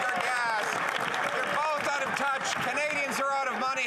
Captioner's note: some Applause